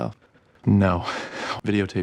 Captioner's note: deep breath